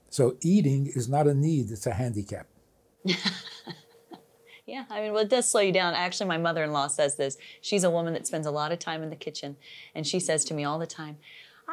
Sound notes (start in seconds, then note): 3.1 laughs